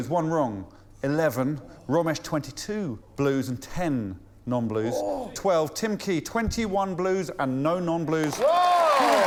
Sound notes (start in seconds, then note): 3.0 applause